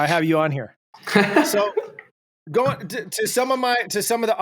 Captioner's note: laughs